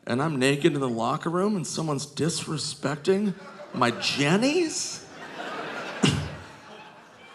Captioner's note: scoffs